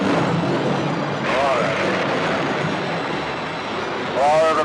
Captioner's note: thunder intensifies